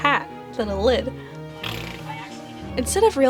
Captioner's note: blows a raspberry